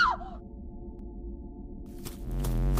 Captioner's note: scream